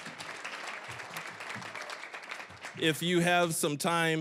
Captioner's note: cheering, applause; applause